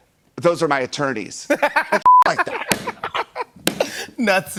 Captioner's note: laughs